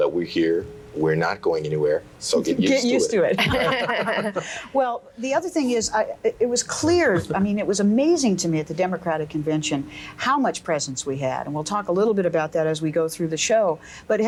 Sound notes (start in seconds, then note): 2.6 group laughs